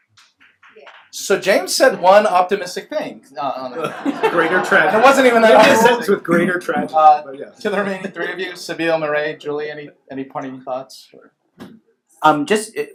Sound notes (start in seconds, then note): 3.7 laughs